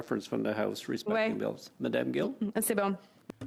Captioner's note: speaking french